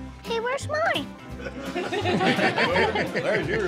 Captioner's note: laughter